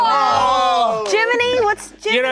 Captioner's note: group groaning